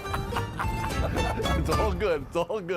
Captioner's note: laughing